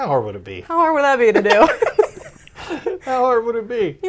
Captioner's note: laughs